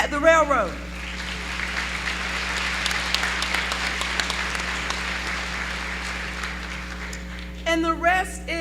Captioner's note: applause